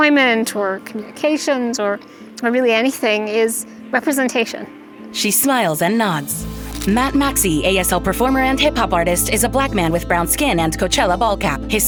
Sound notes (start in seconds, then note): 6.4 camera snaps a photo; 8.6 tender music continues